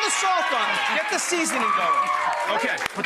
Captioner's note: audience cheers